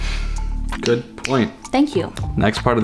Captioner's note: tapping fingers